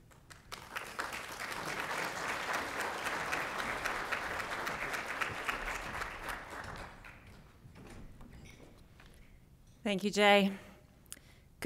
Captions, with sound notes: (applause) - Thank you, Jay.